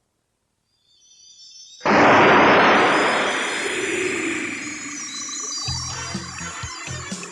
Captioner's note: SFX: sparkling followed by explosion